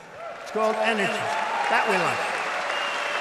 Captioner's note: applause